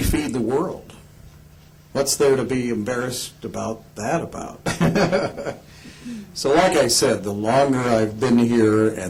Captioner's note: laughs